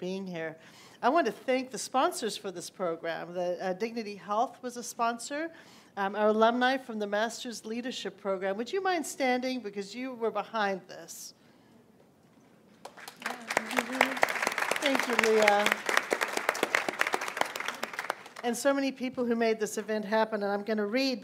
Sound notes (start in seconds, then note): 12.8 applause